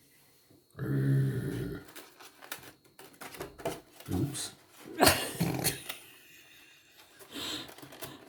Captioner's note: both laughing